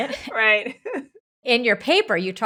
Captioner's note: laughing